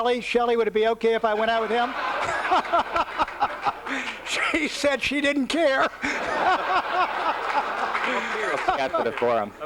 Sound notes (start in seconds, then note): 1.3 laughter